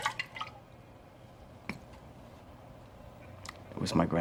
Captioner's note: liquor sloshes